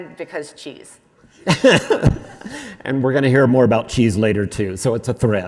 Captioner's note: laughs